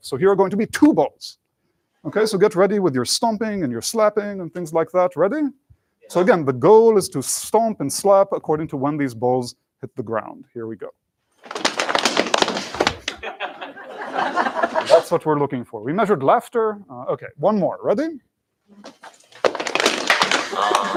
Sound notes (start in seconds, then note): 11.4 thudding; 13.1 laughter; 19.3 thudding